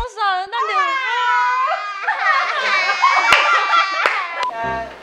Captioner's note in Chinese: 哀號聲again